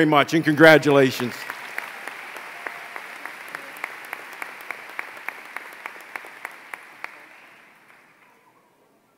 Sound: applause

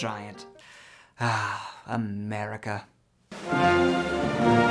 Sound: sigh

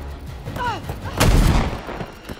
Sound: gun firing

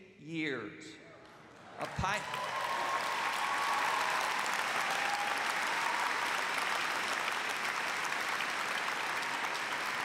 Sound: cheers and applause

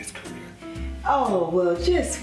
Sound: country accent

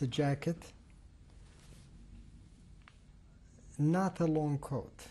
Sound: pauses for 3 seconds

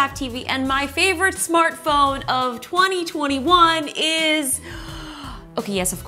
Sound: sighs

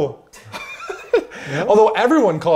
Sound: both laughing

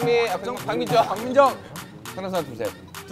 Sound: hehehe

